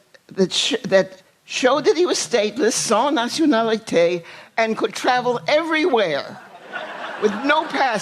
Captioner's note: laughter